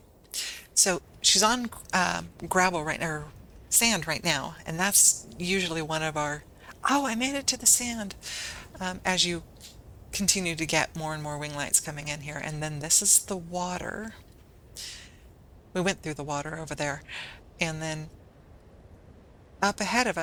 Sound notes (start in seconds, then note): none